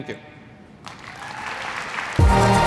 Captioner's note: applause